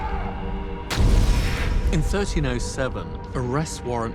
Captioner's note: shouting